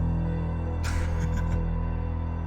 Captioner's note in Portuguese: risos